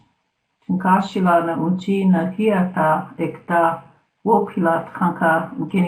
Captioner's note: speaking in foreign language